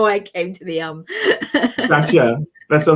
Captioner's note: laughs